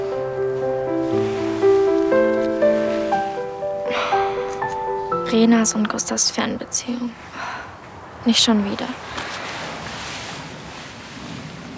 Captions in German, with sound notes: *Chiara seufzt.* Reenas und Gustavs Fernbeziehung. Nicht schon wieder.